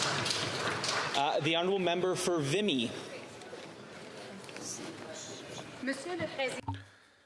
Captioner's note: some Applause